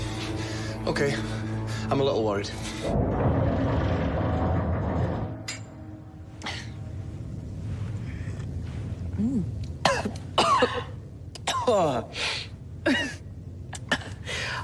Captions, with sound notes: Okay, I’m a little worried. - Mmm. - ( coughing )